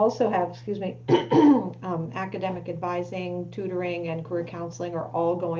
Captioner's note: clears throat